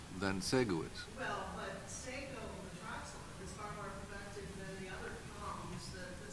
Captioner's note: woman speaking off-microphone